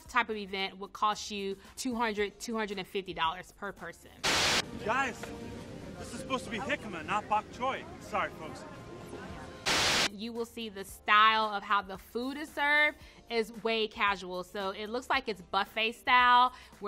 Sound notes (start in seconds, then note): 9.2 muffled chatter; 9.6 TV static hisses